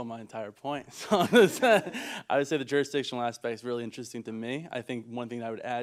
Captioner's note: laughter